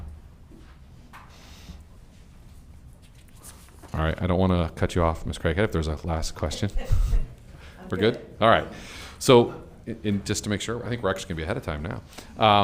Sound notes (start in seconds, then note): 7.1 laughing